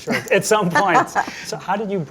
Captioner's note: laughs